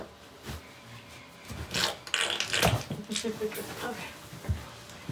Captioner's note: more jelly sounds